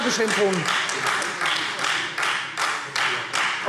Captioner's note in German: Beifall Freie Demokraten